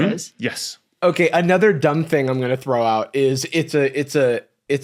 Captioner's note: none